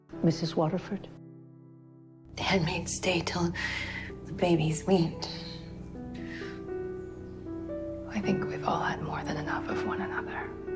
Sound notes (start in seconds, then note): 2.6 voiceover